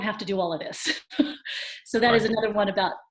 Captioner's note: gigles